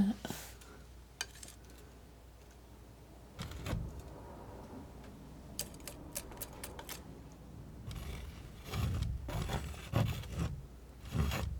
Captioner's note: scratching